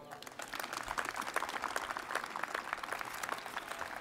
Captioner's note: crowd applauding